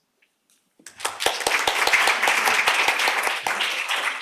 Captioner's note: applause